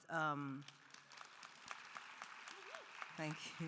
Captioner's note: audience applauding